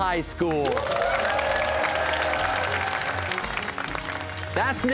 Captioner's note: cheers and applause